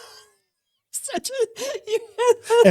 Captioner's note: laughing